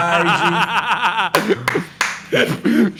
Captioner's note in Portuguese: risadas